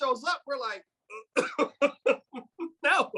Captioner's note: speaker laughing